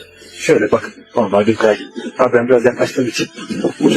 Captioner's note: Turkish dialogue continues